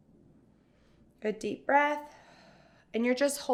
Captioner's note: exhales sharply